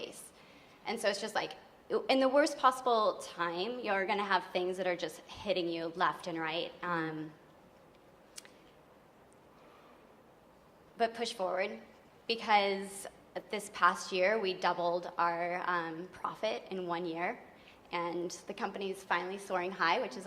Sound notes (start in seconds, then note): none